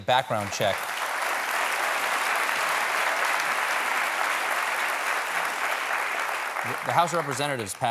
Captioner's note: applause